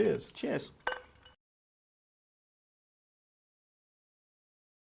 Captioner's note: glasses clink